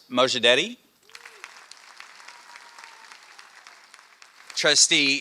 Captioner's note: applause